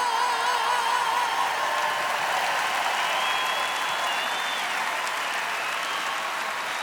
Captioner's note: screaming; applause